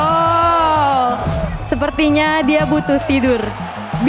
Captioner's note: in Indonesian